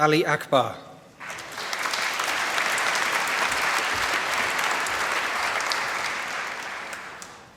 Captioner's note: applause